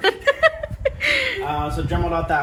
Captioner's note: laughs